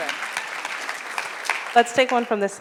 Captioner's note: audience applauds